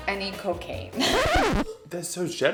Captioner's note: record scratches